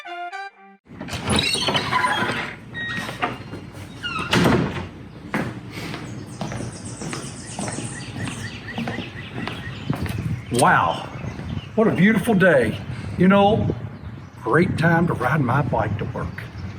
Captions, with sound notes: (door opening) (heavy foot steps) (birds singing) Wow, what a beautiful day. You know, great time to ride my bike to work.